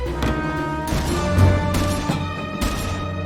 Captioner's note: shotgun firing